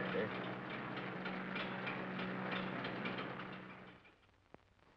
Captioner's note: engine clatters